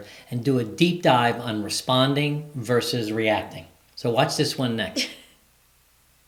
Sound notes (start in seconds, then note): 4.9 chuckles